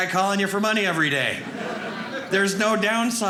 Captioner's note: audience laughing